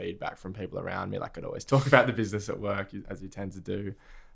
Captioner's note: laughs